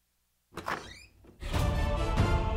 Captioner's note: Door opens